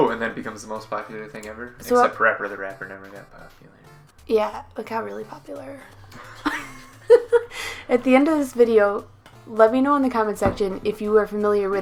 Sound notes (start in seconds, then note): 5.4 sarcastic; 5.9 laughs